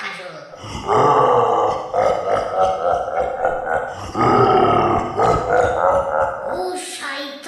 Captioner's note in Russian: ужасно-ужасное рычание с ужасно-ужасным зловонным смехом